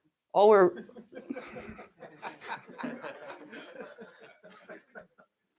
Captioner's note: laughter